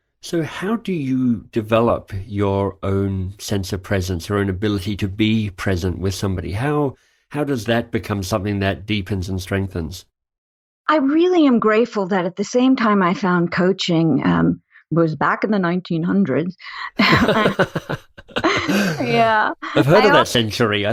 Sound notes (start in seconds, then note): 16.9 laugh